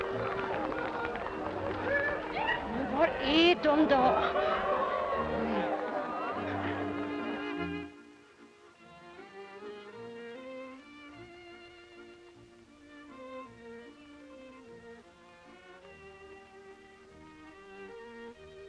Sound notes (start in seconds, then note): 3.8 berta skrattar